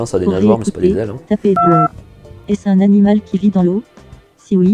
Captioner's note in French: son de touche de téléphone